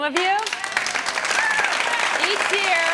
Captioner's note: clapping